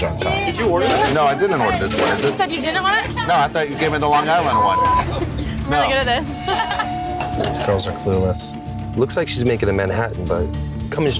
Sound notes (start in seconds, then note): 6.1 laughs